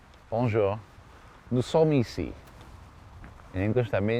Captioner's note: speaking french